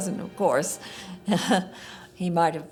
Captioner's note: laughs